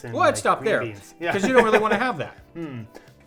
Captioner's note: laughing